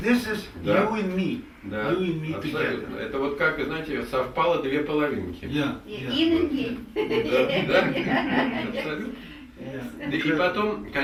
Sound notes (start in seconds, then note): 3.4 speaks in the Russian language; 7.0 all laugh; 10.3 speaks in the Russian language